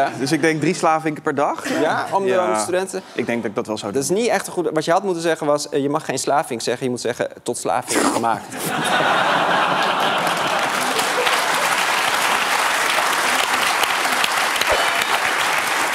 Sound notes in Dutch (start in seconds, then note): 10.2 gelach; 14.3 applaus